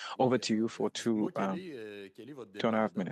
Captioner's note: speaking French